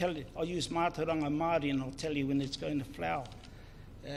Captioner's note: speaks in foreign language